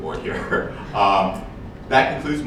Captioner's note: laughs